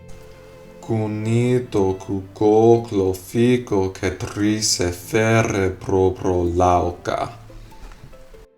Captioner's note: speaking in reconstructed seriki